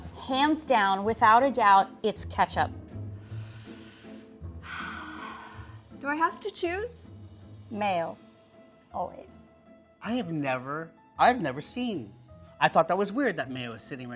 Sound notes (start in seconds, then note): 4.6 sighs